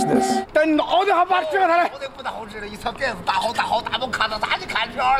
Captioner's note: non-english speech